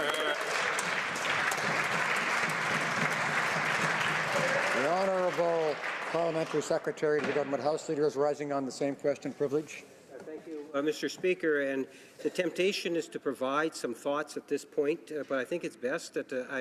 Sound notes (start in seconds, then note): 6.7 applause